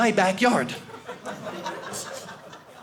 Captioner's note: audience laughing